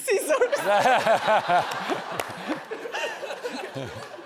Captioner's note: audience laughs